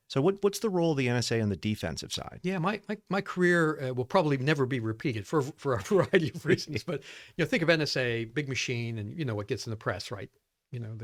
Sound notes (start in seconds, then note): 5.8 laughing; 5.8 laughs